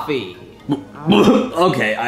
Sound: Mario retching

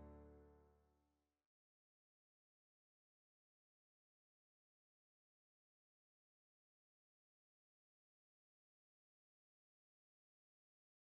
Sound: silence

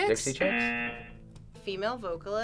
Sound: audio buzzes

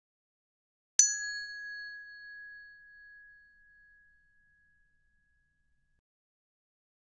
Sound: sound hand bell

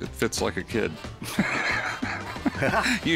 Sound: laughs

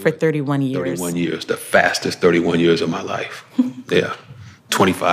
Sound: chuckles

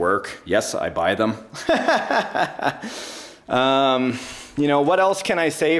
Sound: laughing

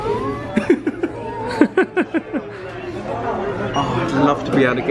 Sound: pair laughs

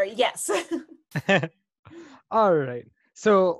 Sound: laughing

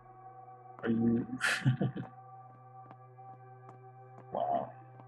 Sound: laughs softly

